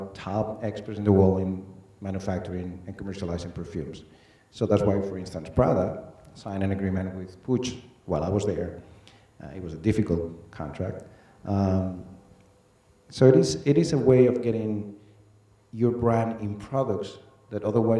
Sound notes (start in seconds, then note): none